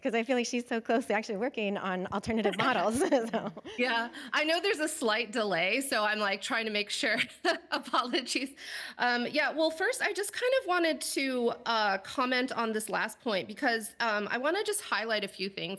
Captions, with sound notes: feel like she's so closely actually working on alternative models. [chuckles] - Yeah, I know there's a slight delay, so I'm like, trying to make sure. Apologies. Yeah, well, first I just wanted to comment on this last point because I want to just highlight a few things that I